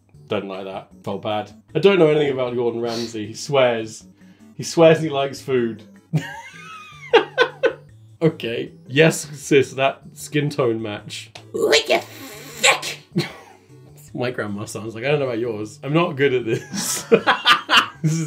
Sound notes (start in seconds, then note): 6.2 laughing; 11.6 old lady voice; 13.2 laughs; 16.6 laughing